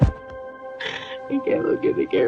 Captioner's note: sobbing